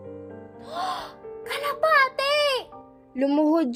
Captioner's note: gasp